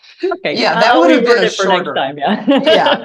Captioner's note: chuckling